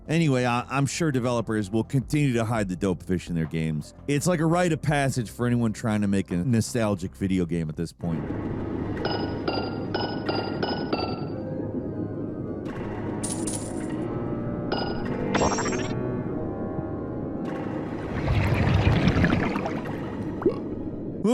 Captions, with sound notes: Anyway, I'm sure developers will continue to hide the Dope Fish in their games. It's like a rite of passage for anyone trying to make a nostalgic video game at this point. (chalices clinking) (coins clinking) (water bubbling and Dope Fish burping)